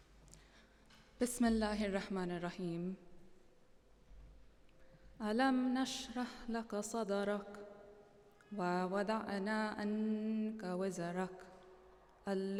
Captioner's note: non-english speech